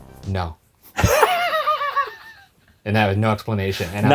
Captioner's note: laughs